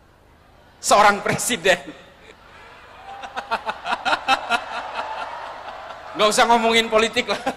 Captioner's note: laughs